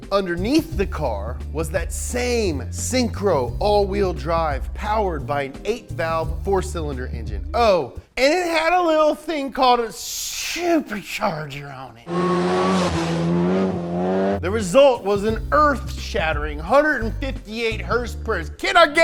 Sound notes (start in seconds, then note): 12.0 engine revving